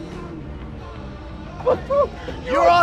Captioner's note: laughs